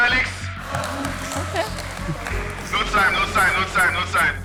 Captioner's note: applause